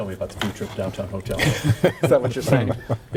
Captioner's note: laughing